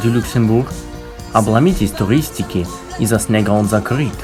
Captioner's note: imitating French accent